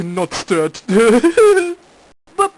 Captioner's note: guffaws